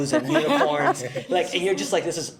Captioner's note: everyone laughs